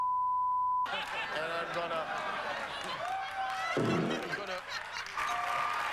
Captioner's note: farting noise